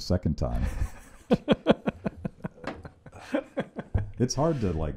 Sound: laughing

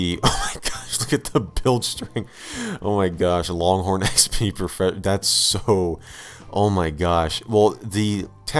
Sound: laugh

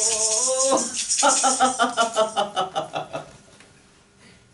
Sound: laughter

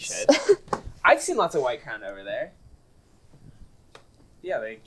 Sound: laughs

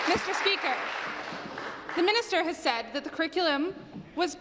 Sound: applause

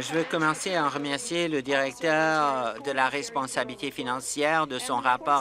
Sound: applause

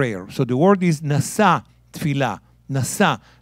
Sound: speaking in Hebrew

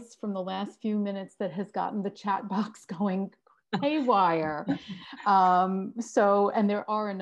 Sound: laugh

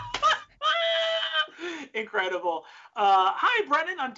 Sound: laughing

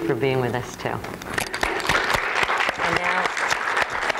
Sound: applause

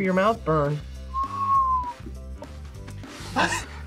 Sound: whistles; laughs

